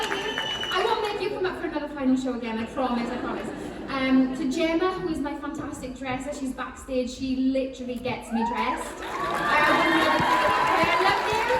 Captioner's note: choking up